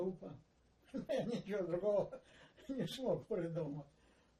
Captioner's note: laughing